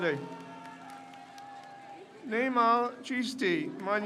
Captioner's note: crowd cheers